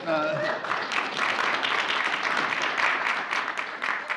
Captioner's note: applause